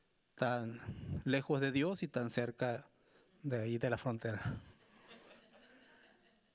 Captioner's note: speaking Spanish continues; audience laughing